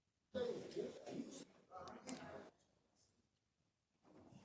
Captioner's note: members chattering